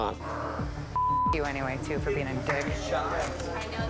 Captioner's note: beep